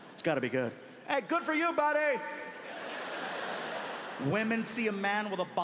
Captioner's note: audience laughing